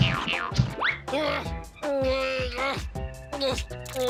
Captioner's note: boing boing; straining